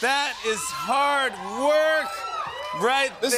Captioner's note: cheers and applause